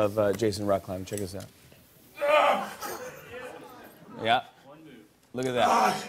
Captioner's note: grunts; grunting